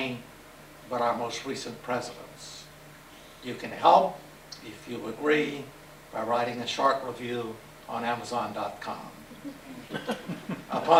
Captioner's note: laughter